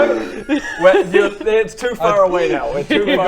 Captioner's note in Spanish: riendo